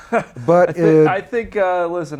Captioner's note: laughing